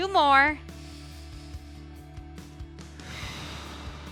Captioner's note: upbeat music continues; inhales; exhales